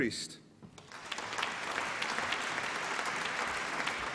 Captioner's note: applause